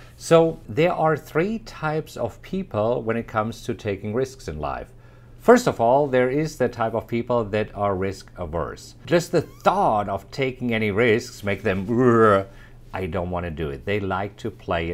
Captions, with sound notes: So, there are 3 types of people when it comes to taking risks in life. First of all, there is the type of people that are risk averse. Just the thought of taking any risks, makes them ['uncomfortable' sound]. "I don't want to do it." They like to play